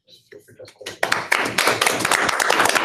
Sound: applause

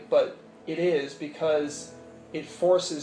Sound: none

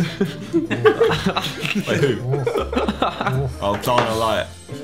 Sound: everyone laughing

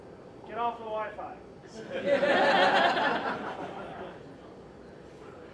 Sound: laughing

